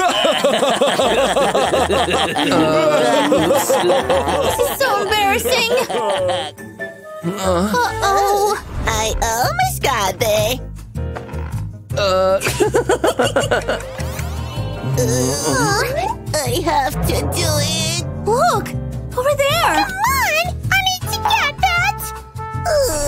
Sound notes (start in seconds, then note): 0.9 groans; 3.9 laughing; 6.5 groans; 22.6 moaning